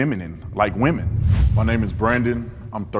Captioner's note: whoosh air